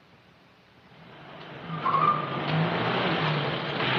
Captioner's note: vehicle Approaching